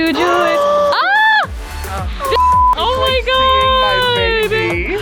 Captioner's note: girls gasping and exclaiming